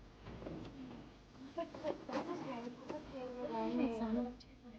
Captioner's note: muffled conversation